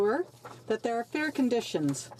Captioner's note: speaking French